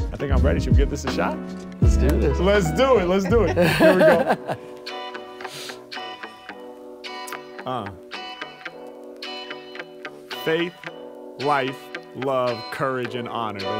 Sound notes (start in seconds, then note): 3.0 laughs; 5.0 gentle upbeat music